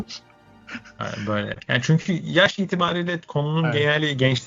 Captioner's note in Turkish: kahkaha